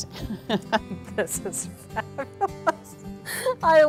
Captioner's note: laughter